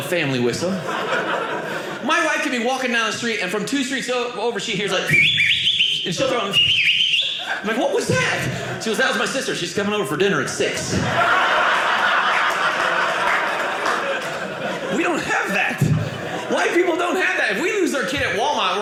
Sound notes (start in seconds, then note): 5.0 whistles; 10.6 audience laughing